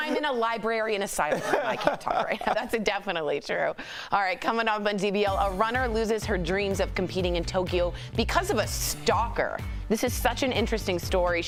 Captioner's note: laughter